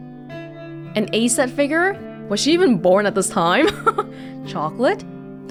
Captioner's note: chuckles